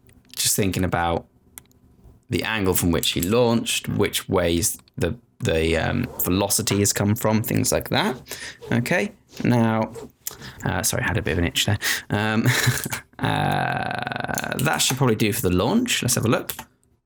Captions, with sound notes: Just thinking about the angle from which he launched, which ways the velocity has come from, things like that. Okay, now-- sorry, had a bit of an itch there. (chuckling) That should probably do for the launch. Let's have a look.